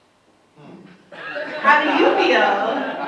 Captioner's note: audience laughs